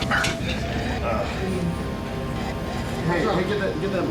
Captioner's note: groaning